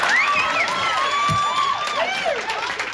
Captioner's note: microphone thumps; audience clapping and hollering